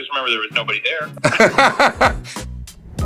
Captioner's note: laughs